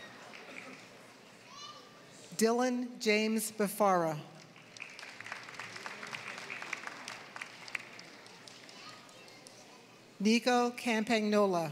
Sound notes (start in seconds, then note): 4.4 applause